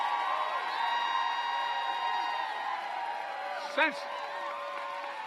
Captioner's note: applause